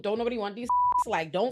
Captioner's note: beep